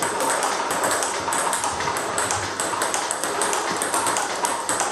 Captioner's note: ball ping pong hitting continues